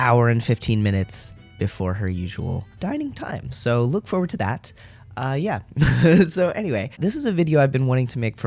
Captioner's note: laugh